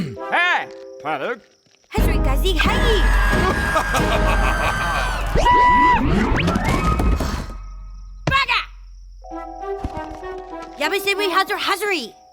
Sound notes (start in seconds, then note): 3.0 laughing; 5.4 screaming; 7.1 sighs